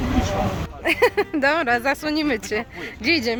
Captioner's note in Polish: smiech